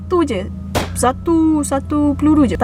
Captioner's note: gun pop's sound